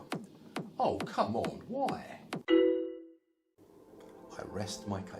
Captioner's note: sound of social media notifcations